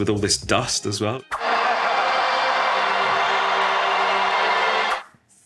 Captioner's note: audience roaring